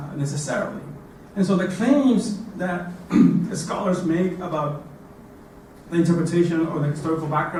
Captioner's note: cough